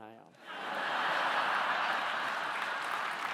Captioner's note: laughing